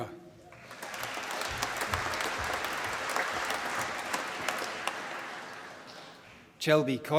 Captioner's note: applause